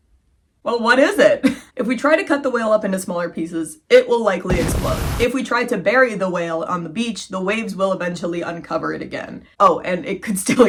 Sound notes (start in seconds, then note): 4.4 explosion sound